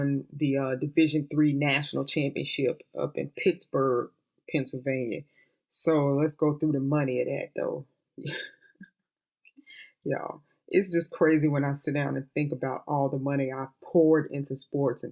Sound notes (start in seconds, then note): 8.2 chuckles